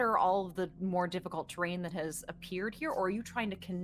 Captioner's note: none